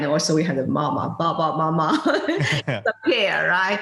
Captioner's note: laughing